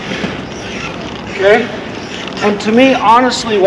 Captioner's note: wheels creaking